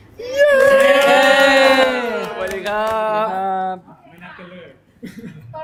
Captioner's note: cheering